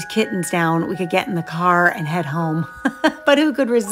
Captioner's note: laughs